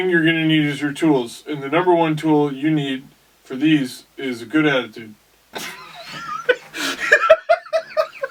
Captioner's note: big laugh